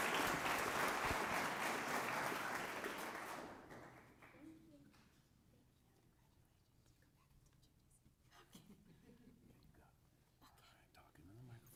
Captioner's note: applause